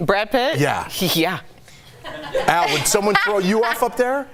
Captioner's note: laughter